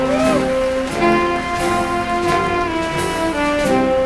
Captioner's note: applause